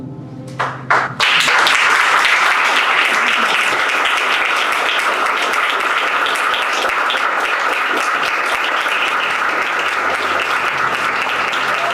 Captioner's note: applause